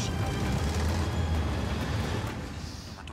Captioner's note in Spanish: sonido del motor